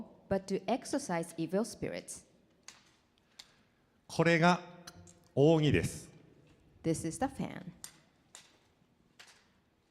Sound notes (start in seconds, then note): 4.2 speaking foreign language